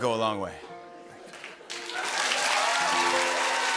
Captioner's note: cheers and applause